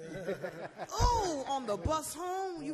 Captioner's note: laughs